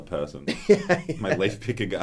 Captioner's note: laughs